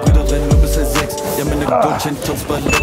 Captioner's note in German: Lockere Musik; Ächzen